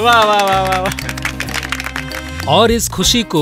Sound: applause

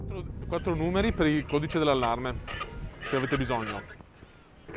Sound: foreign language

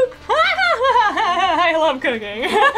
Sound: laughs; both laugh

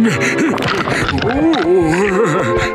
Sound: groaning

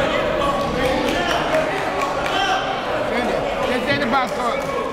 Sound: referees and players chattering

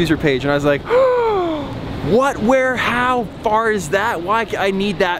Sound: gasps

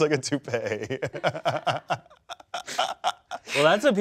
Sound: laugh

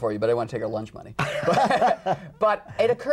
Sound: laughter

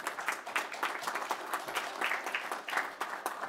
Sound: applause

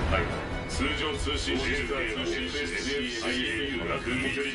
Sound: alert messages overlap

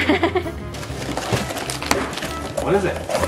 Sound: laughing; box rustling

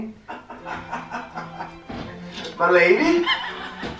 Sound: laughing

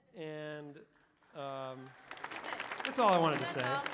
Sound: audience applauding; audience cheering

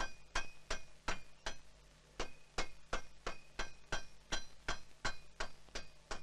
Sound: sound of hammering

